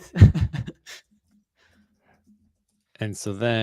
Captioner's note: laughs